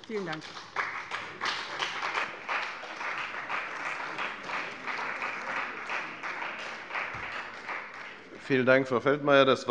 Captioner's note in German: Beifall bei dem BÜNDNIS 90/DIE GRÜNEN und der CDU